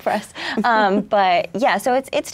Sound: laughs

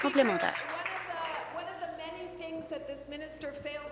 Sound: applause

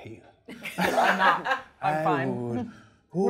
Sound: laughs

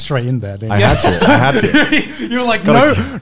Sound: laughing lightly

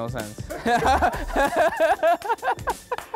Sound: laughs

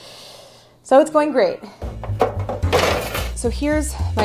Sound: bright jazz music; metal loudly clattering

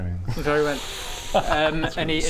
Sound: winces

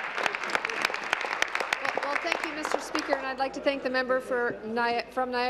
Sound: applause

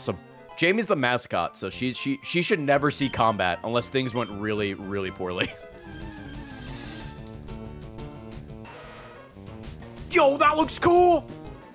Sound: laughs

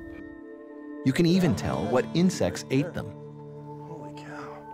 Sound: voiceover

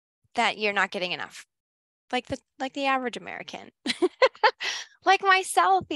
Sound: laughs

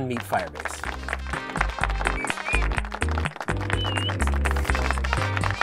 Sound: applause

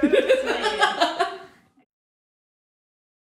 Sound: laughing

